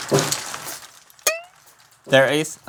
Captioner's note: thunk